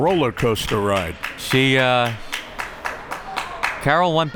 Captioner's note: crowd members clapping